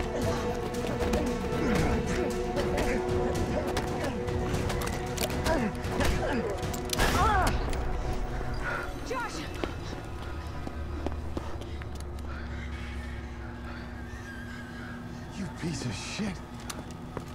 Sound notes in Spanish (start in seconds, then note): 0.1 Gruñidos; 6.4 Disparo; 6.9 Gritos; 8.0 Respirando profundamente